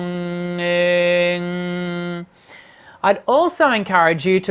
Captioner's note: vocalizing and mumbling